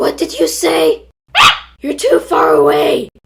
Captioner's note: ahhh